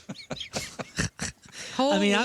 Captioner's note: laughter